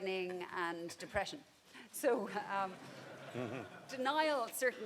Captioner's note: people laughing